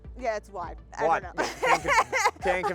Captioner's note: laughs